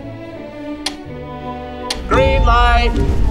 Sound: counter ticking down

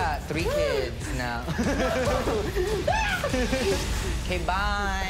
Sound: both laugh; screams

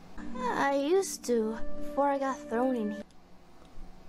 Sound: none

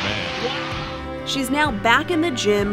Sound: crowd cheering

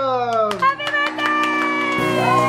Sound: clapping

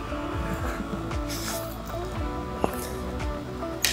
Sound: chuckles

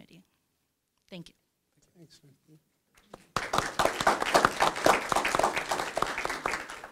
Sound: clapping

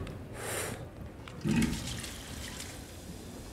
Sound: tap runs

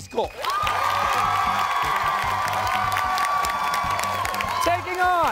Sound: cheers and applause

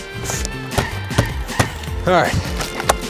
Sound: tapping panels

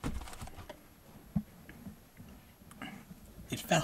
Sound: crackling, movement

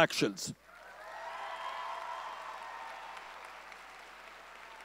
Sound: audience cheering

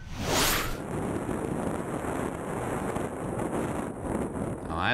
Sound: continuous whirring wind

